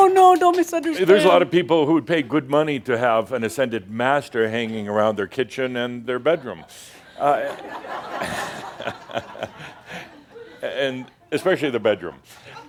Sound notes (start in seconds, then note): 7.2 more laughter